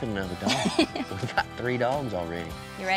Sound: laughing

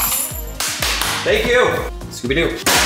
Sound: claps hands

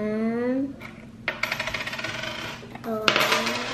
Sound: rattling

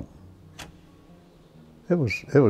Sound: light switches off

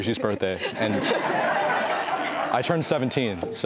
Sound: laughter

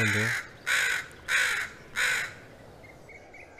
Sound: crow caws

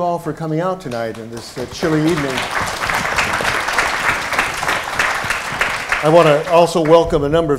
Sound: applause

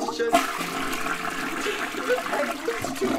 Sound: toilet randomly flushes

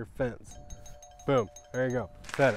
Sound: positive bell dinging

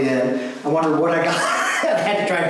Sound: laughs

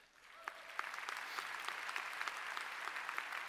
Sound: applause

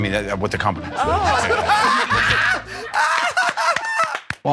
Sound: laughter

